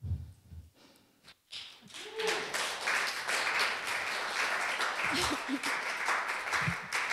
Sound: applause

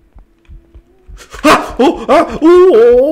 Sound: gasps

